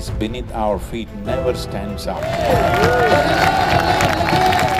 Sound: cheering/Applause

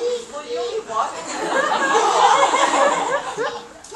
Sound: laughter

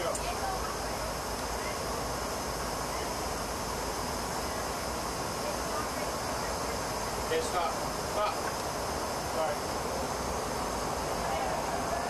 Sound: chatter

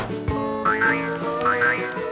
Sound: boing

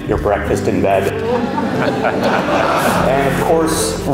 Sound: crowd laughs

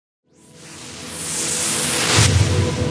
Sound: whooshing

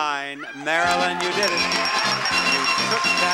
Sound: audience applauds; bell ringing

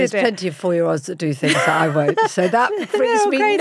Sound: Giovanna laughs

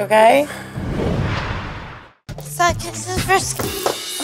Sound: whooshing

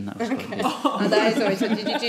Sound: laughing

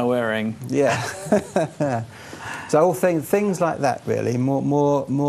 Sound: laughing

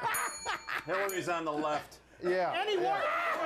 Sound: bell rings

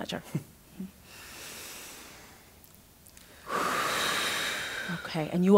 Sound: chuckles; deep breathing as a group

